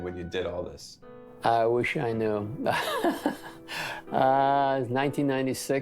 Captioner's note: laughs